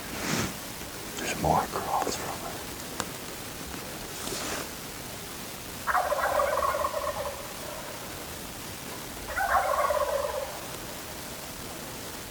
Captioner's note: turkey Gobbles Again